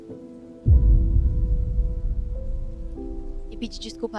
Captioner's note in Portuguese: impacto